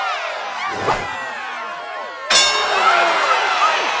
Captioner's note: bell dings